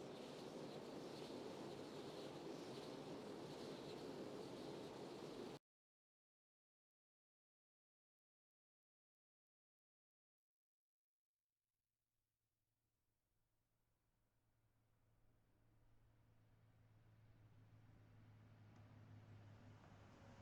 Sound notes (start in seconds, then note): 3.5 wind